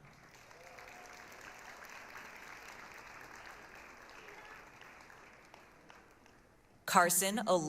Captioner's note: applause, cheering